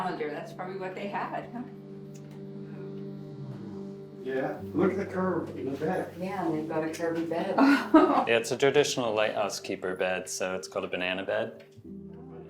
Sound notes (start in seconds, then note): 7.6 woman chuckles